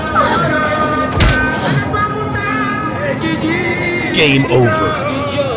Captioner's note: fist smacking